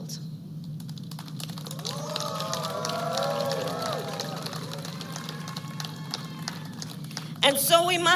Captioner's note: applause